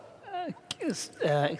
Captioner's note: foreign Language